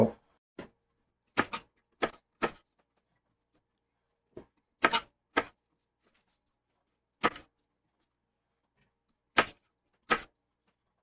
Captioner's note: knife cutting